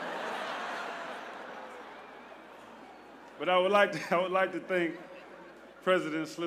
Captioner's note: laughter